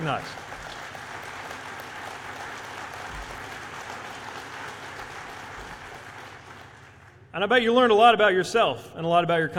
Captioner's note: applause